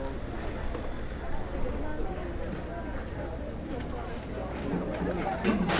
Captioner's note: chatter